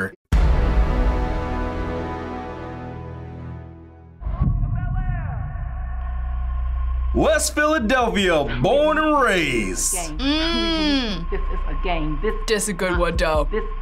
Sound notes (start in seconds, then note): 0.3 dramatic chord; 4.7 voice-over